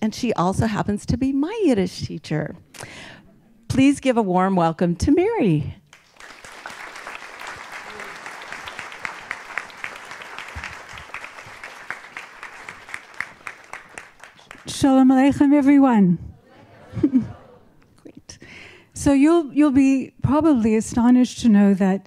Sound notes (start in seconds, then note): 5.9 applause